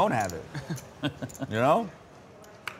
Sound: chuckles

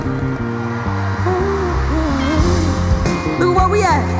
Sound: hums; soft music continues

